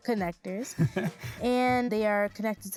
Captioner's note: laughs